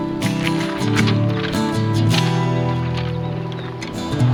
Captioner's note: birds chirping